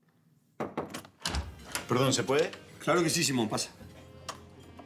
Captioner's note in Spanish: Toques en la puerta